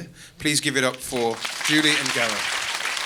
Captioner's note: audience applause